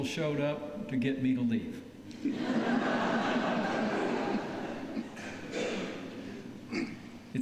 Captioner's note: laughter